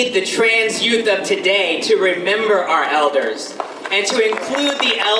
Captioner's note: audience applause